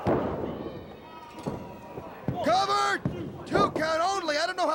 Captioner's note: crowd chatter